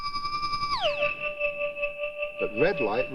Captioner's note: resonating